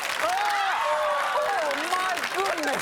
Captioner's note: audience screams